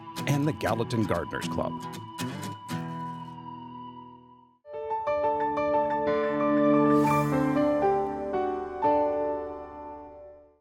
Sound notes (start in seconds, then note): 0.0 bright music; 2.1 bright music; 4.4 logo chiming